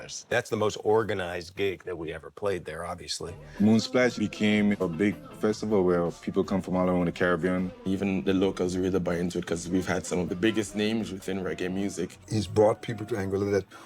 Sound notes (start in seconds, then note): none